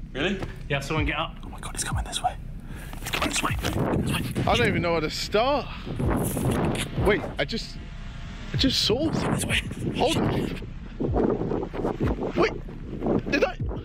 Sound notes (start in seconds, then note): 6.1 wind blowing; 10.9 wind blows